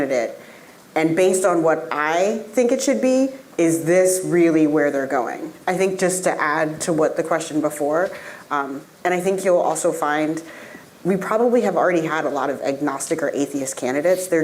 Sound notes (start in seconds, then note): none